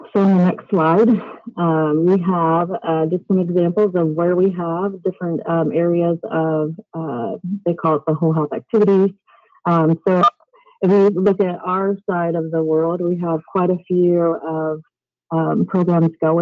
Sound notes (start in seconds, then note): 10.0 beeping